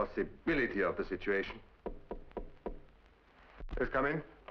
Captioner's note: knocking on door